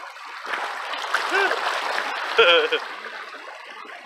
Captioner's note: splashing. laughing